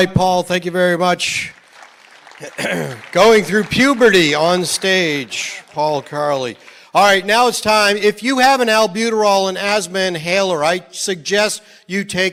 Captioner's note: applause